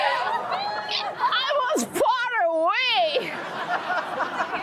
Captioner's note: laughs